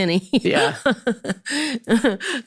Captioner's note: laughs